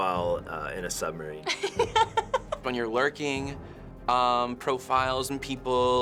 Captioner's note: laughs